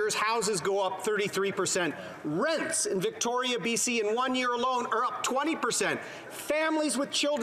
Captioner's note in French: voix de l'interprète